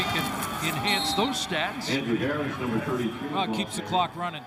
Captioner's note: crowd din